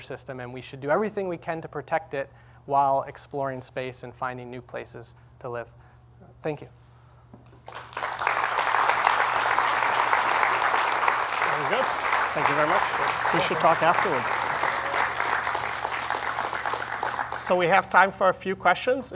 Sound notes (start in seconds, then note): 7.8 applause